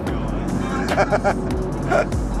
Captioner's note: laughing